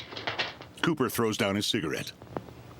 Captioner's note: paper rustling